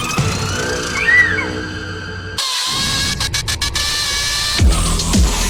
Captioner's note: devil screeches; intense synth music